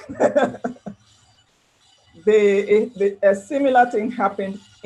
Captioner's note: laughs